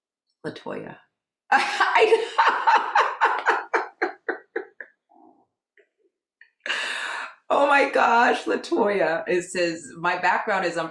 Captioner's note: laugh